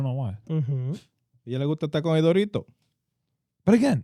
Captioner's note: speaking In Foreign Language